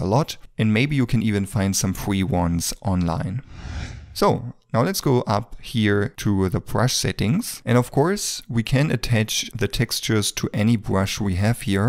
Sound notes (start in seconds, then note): 3.3 screen whooshing